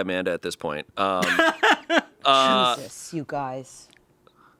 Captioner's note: laughs